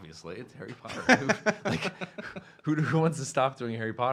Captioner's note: laughing